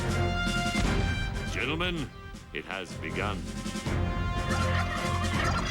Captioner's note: gobbles